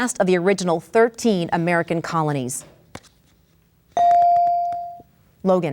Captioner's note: bell dings